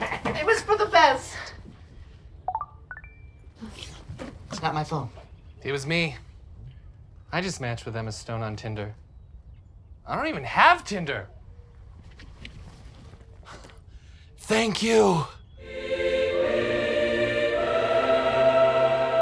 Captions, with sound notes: It was for the best. (phone chimes) It's not my phone. - It was me. I just matched with Emma Stone on Tinder. I don't even have Tinder. Thank you! (heavenly music)